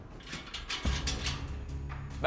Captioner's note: door rattling